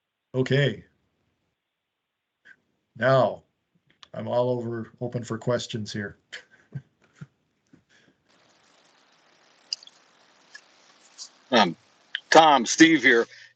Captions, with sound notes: Okay. Now, I'm all over. Open for questions here. [chuckles] - Tom. Tom, Steve here.